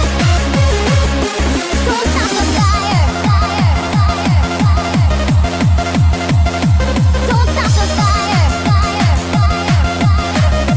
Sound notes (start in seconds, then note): 2.6 echo; 9.8 echo